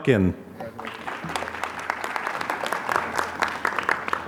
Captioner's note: applause